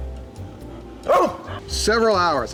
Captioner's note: barks